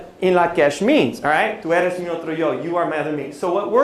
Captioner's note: non-english speech